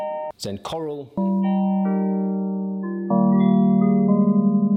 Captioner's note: chimes chiming